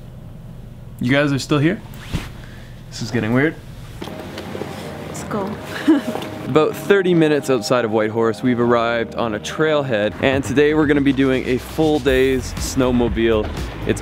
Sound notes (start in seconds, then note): 4.2 soft techno music; 5.6 giggles